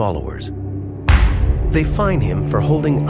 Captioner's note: gavel thumping